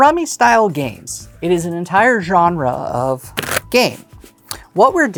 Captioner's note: cards riffling